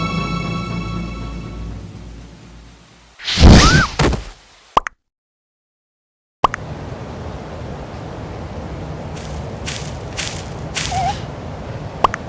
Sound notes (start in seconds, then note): 9.2 Goliver footstep from the left; 10.8 bat Noise